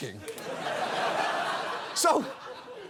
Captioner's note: audience laughs